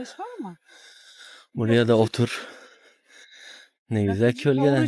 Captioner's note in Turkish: iç çeker